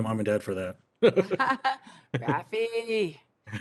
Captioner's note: laugh; chuckles